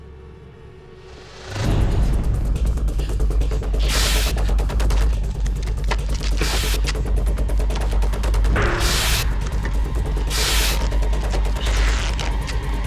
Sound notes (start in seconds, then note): 1.4 Tim panting; 1.4 suspenseful music; 4.7 tape ripping